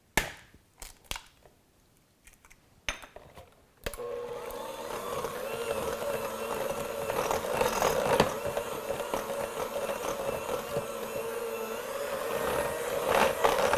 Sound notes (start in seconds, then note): 0.2 egg cracking; 4.0 mixer blending